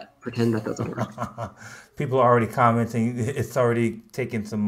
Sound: chuckles

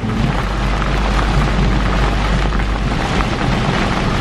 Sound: rain falling

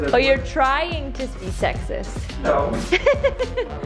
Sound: laughing

